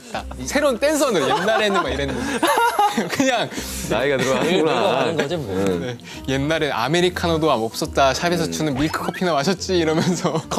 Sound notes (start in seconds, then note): 1.1 haha / Haha; 5.6 haha